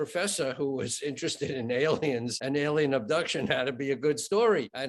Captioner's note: chuckling